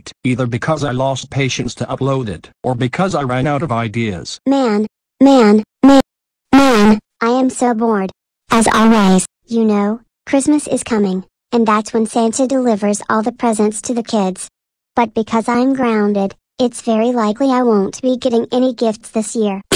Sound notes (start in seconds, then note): none